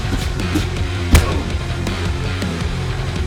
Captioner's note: John moaning; gentle upbeat music